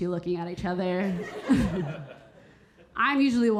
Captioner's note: audience laughing; Keira chuckling